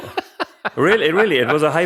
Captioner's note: laughs